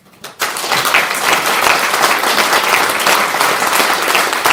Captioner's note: applause